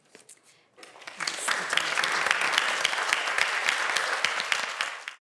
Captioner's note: applause